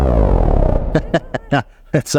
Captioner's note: laughs